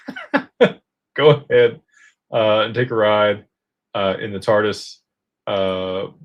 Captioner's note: laughter